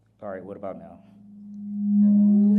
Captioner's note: mic feedback